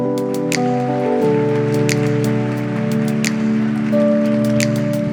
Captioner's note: upbeat music; audience applauding